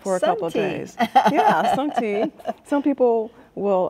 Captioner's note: chuckling